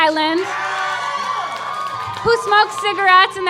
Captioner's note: audience clapping